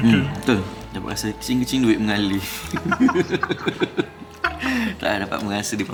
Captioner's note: laugh